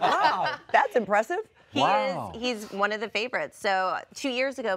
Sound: laughter

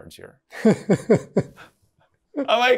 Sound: laughs

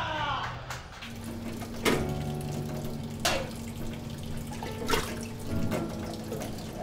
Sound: water sloshing around

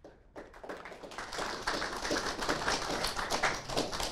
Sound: applauding

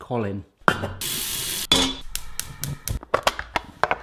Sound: water running

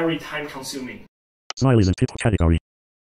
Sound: voiceover speaking

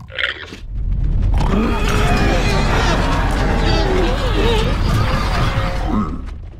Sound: llama exclaims; piglins yelling

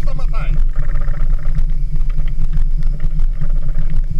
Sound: engine sounds

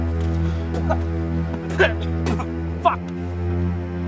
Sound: Dr. Richards spits

